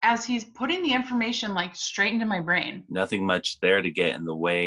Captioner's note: none